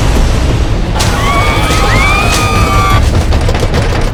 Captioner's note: screaming